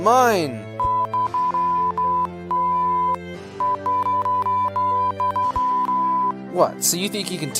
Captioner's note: confrontational beeping